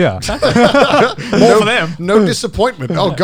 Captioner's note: all laughing